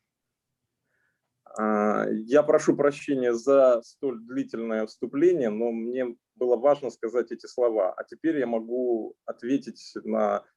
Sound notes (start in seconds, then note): 2.0 speaking Russian language